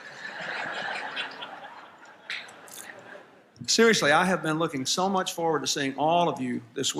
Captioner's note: laughter